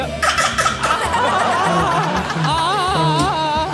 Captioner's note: crowd laughs; baby crying; Rob fake cries